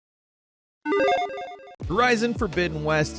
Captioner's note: logo beeps